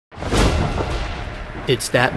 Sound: thunder crashing

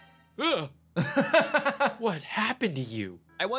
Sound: laughs

